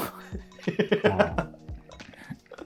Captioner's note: laughing